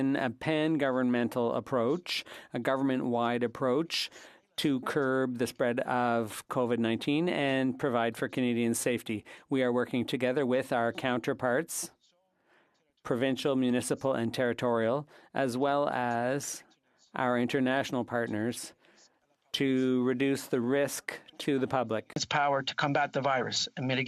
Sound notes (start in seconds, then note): 4.6 speaking French